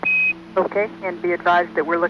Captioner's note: beeps